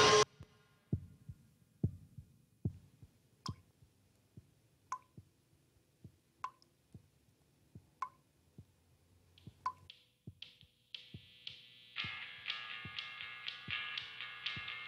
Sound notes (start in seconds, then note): 0.0 screeching stops, heartbeat resumes; 2.7 water drops plopping; 12.0 heartbeat continues along with faint music